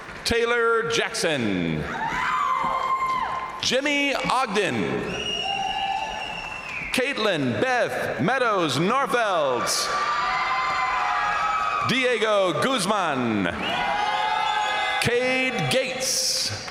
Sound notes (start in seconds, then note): 0.0 crowd applauding; 0.0 crowd cheering; 1.8 crowd cheering; 5.0 crowd applauding; 5.1 crowd cheering; 8.9 crowd cheering; 10.0 crowd applauding; 13.3 crowd cheering; 13.4 crowd applauding; 16.4 crowd cheering